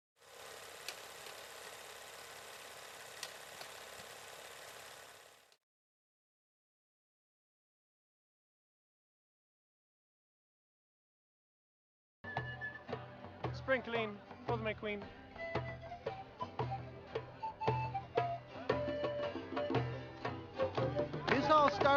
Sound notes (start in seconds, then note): 0.2 film reel spinning